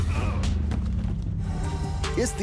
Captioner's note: men grunting